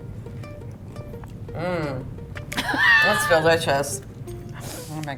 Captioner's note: laughing